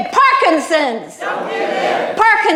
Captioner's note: crowd